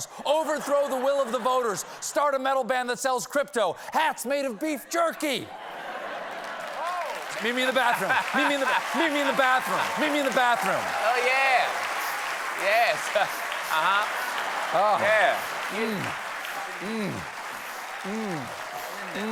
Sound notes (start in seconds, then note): 7.3 laughter; 8.4 applause